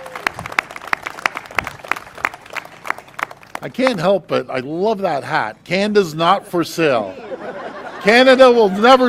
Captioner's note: applause